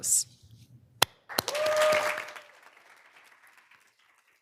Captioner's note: audience applauding